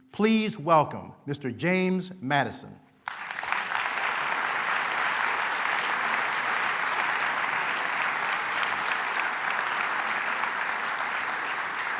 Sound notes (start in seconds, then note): 3.3 applause